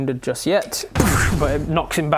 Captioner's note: doosh